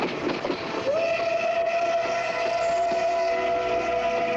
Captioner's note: train whistling